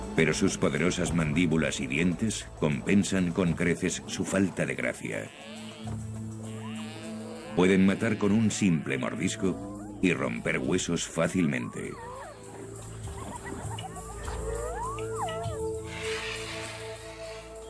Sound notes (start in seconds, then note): 11.4 cries